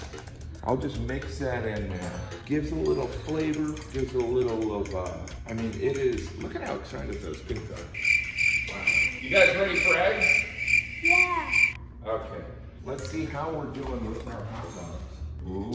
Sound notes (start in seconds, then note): 7.9 crickets chirping